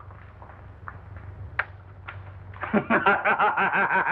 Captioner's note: laughing